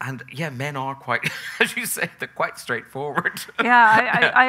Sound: chuckles

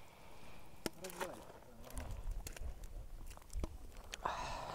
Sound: water splashing

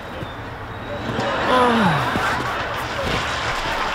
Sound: sigh

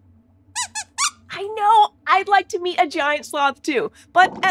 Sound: squeaks squeaking

